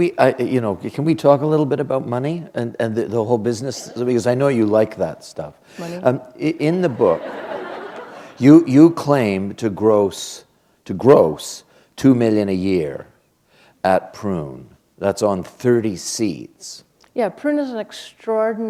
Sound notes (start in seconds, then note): 6.8 laughter